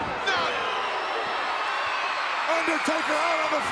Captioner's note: crowd cheering